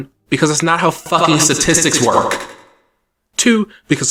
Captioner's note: echoing